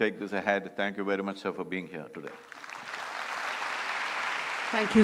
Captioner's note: applause